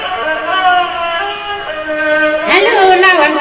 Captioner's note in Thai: ปรบมือ